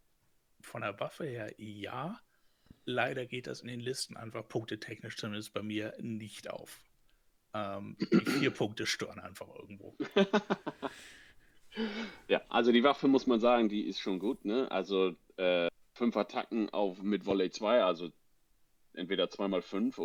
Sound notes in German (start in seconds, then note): 8.0 räuspern; 9.9 gelächter